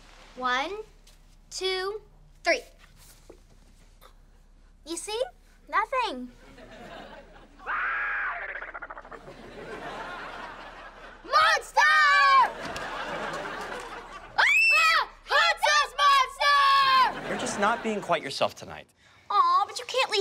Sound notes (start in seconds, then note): 8.1 growling; 14.4 screaming